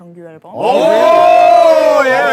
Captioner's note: hosts cheering